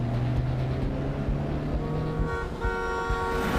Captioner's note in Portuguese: buzina apitando